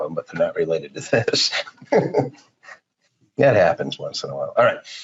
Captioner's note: laughing